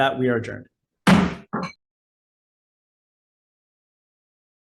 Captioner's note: gavel bangs